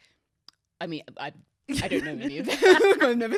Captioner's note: laughing